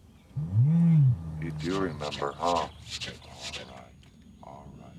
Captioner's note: Steve and Half Nose grunting; Half Nose huffing